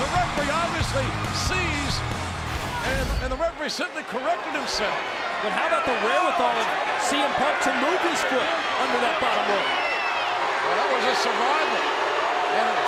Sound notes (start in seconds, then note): 2.5 rushing sound plays